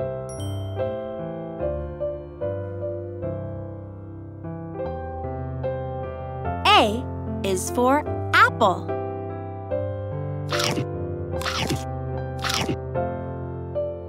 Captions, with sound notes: A is for apple. (mouth crunching)